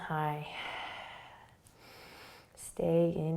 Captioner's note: breathing